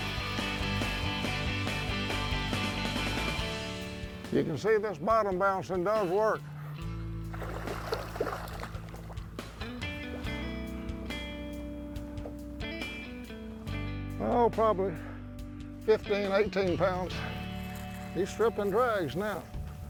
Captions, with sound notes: (upbeat music) You can see this bottom bouncing does work. (water splashes) (soft music) Oh, probably 15, 18 pounds. He's stripping drags now.